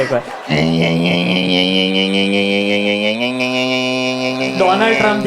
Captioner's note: pedaling sound